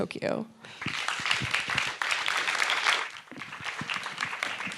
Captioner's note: audience applauding